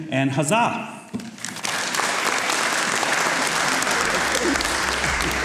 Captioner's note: audience applauds